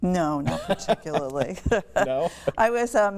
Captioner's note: laughter